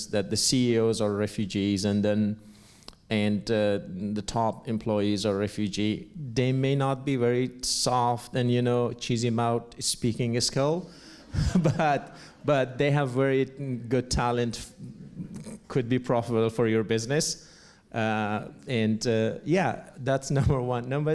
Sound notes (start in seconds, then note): 11.3 laughs